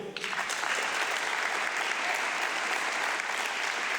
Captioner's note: audience clapping